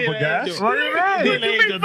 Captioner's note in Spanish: Hablando en idioma extranjero